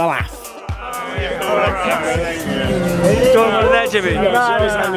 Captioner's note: talking and laughing